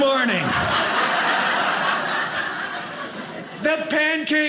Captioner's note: audience laughing